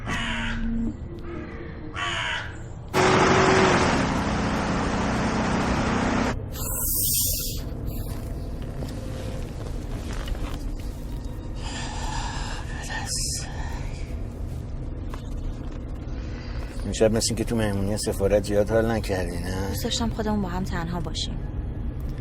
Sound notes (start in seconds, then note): 1.2 crow singing; 2.8 car riding sound; 6.6 sniffing sound; 11.5 deep breathing